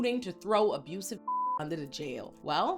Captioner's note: beep